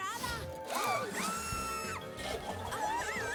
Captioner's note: shriek